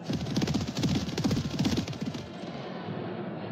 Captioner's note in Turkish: atlarin koşma sesleri̇